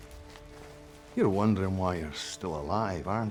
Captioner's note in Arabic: لهجة اسكتلندية